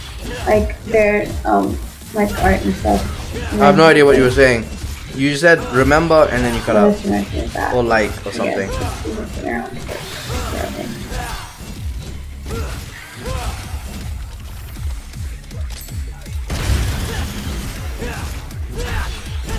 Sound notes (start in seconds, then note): 7.1 randomly mumbles to self